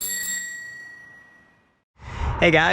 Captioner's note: bell rings